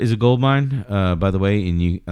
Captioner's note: uh